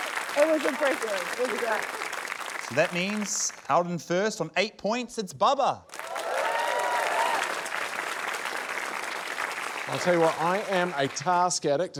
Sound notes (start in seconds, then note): 5.9 cheering, applause